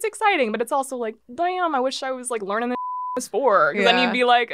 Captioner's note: beep